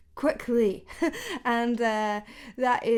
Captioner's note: laughing